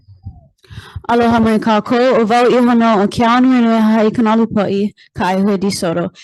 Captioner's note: speaks in foreign language